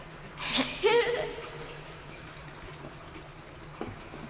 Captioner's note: Cloe laughs